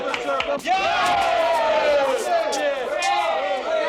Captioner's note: all cheering